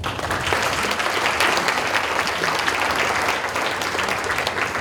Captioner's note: audience applauding